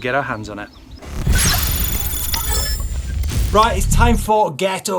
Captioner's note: electronic dinging